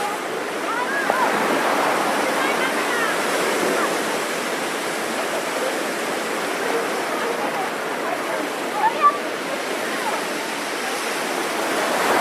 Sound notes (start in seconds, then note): 0.0 waves crashing; 9.1 children murmuring